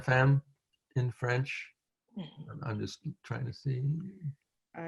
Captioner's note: french